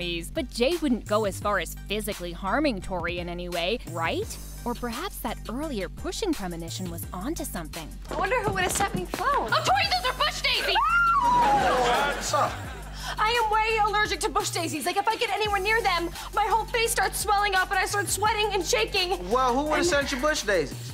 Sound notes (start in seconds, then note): 10.7 screaming